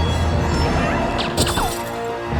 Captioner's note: shrieks; handgun fires